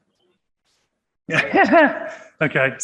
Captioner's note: laughing